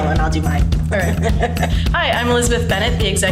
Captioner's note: laughing